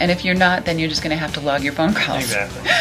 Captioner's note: laughs